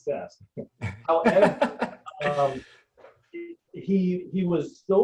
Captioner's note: laughing